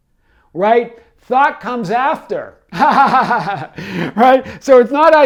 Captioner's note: laughs